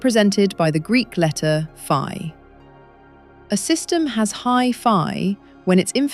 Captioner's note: serious tone